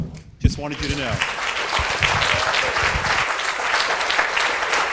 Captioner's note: audience applauds